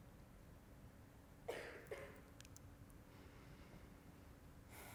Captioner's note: audience member coughs